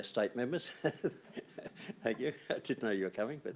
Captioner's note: laughing